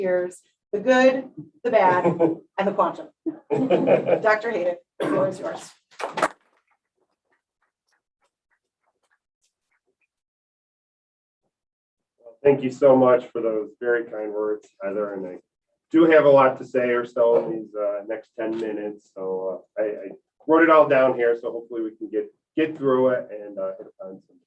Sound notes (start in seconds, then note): 6.5 applause